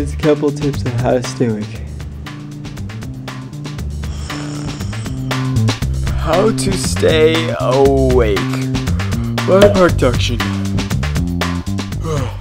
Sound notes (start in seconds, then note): 4.0 snoore